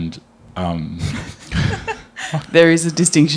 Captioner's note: chuckles